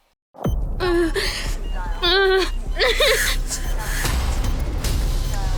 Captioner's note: patient groaning; apprehensive music